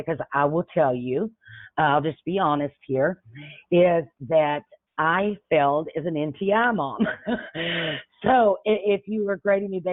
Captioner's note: chuckles